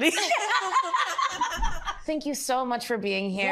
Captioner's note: laughter